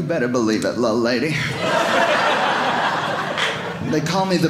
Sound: audience laughing

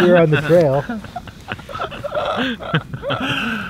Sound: all laughing

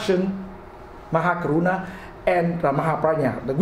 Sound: speaks foreign language

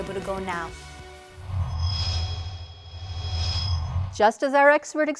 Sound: sound Effects

